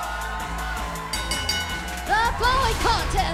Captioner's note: bell ringing